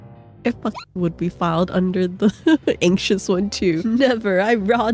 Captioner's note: hyucking